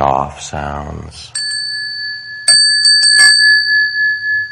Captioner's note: bells chiming